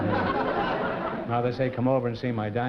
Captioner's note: laughter